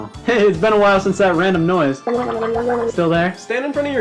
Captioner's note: gargles